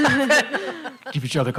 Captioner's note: laughter